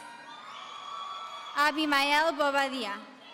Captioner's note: audience cheering